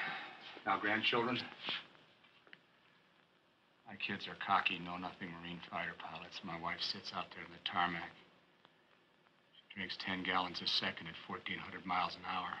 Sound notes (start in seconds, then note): none